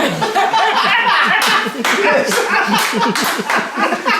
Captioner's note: cheerful laughing